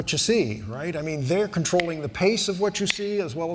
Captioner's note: snapping fingers